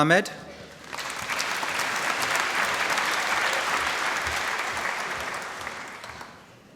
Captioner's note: applause